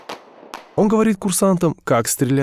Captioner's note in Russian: звуки выстрелов